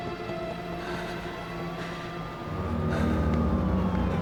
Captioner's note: sirens approaching